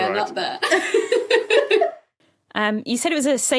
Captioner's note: guests giggling